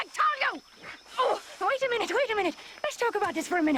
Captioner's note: none